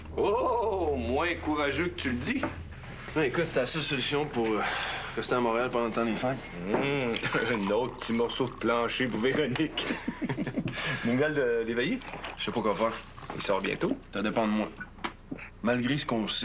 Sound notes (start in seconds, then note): 9.8 Rires